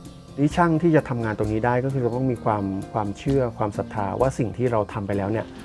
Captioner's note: speaking foreign language